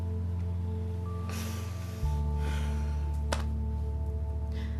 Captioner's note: sighs